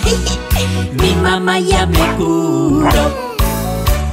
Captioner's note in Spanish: Ladridos